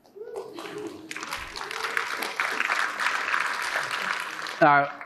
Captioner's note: audience applauding